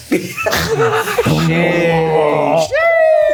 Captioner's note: beatboxing; yelling